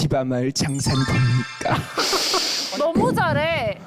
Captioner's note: mystical sound effect